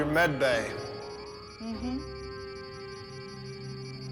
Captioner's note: beeping